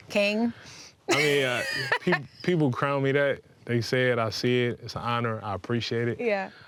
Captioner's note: laughing